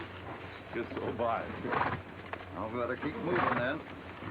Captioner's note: horse nickering